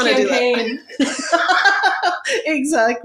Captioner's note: laughs